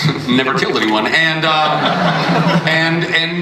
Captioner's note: audience laughs